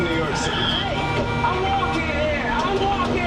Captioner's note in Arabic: يطلق بوق السيارة